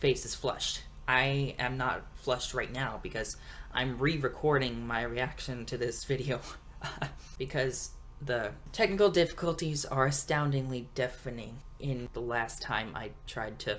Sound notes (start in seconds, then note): 6.8 laughs